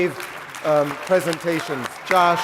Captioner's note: applause